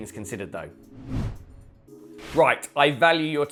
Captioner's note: screen wipe whooshes